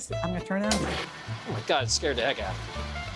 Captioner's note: machine whirring